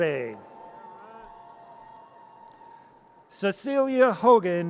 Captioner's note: audience cheers